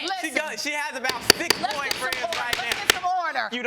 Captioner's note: pounding gavel